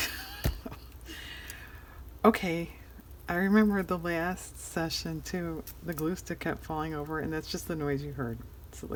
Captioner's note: laughs